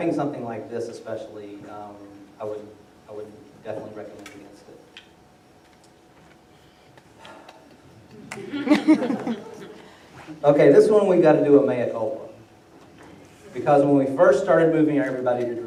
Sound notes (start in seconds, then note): 6.1 laughter; 7.2 sigh